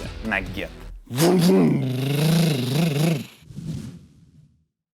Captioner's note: makes car engine sounds